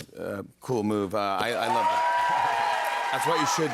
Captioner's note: cheers and applause